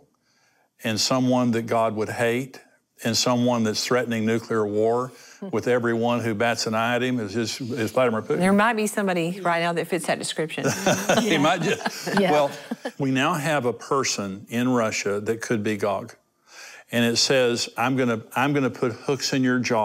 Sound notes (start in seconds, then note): 10.6 laughter